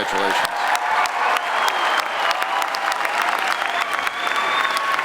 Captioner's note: audience applauds